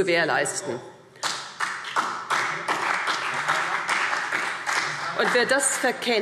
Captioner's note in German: Beifall CDU und BÜNDNIS 90/DIE GRÜNEN